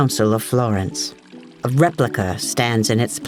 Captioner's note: water trickling gently